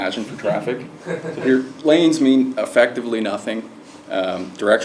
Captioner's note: laugh